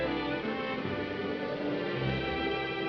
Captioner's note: wind howls